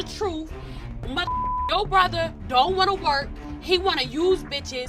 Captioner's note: beep